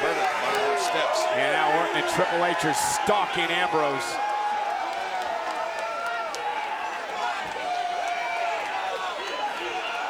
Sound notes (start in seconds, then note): 4.9 audience cheers